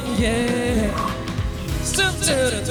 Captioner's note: swoosh